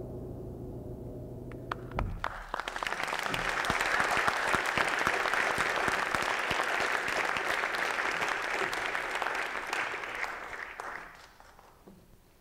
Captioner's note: applause